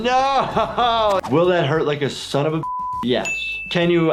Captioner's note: laughs; beep